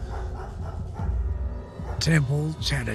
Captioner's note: dog barking